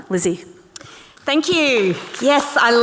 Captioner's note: audience clapping